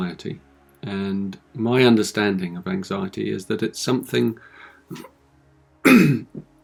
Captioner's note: clears his throat